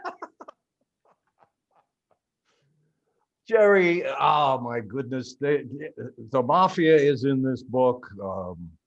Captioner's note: laughing